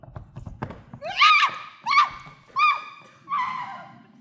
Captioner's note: screaming